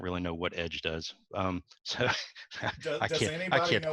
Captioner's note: chuckles